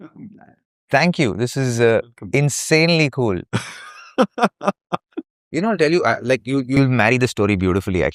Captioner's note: laughter